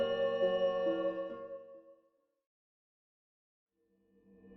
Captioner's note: none